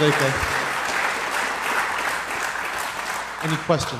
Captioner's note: applause